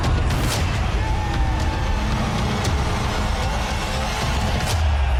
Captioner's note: crowd cheering